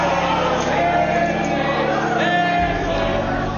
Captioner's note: crowd chanting "Nancy"; crowd shouting on video